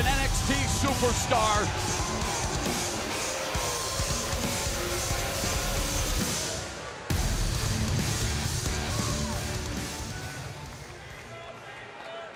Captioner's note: crowd cheering; crowd chatter